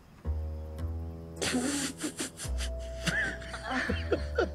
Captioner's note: Sam laughing